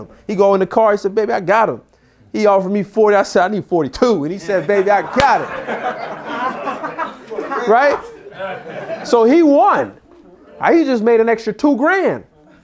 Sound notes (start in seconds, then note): 5.9 group laughs